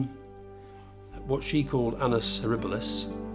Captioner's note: speaking in foreign language